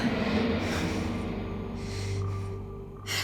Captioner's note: panting